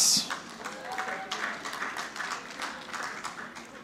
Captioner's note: audience clapping